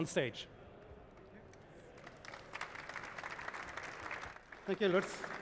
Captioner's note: applause